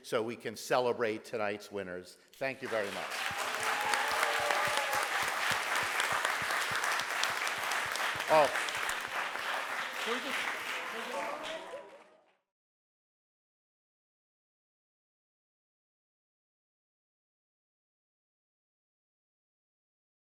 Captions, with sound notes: so we can celebrate tonight's winners. Thank you very much. (audience applauds)